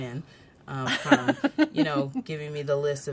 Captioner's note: laughs